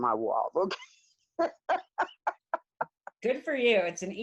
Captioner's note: laughs heartily